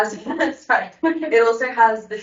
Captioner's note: laughs